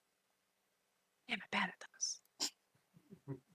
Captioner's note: snorts